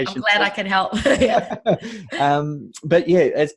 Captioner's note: laughing